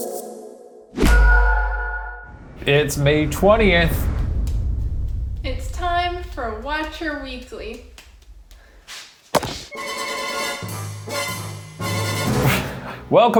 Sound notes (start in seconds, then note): 1.4 logo pop; 9.7 dramatic music